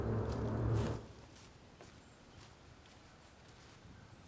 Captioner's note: leaves rustling